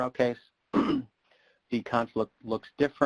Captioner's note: clears throat